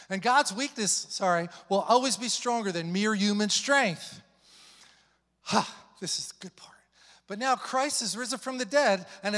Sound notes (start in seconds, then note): 4.4 exhales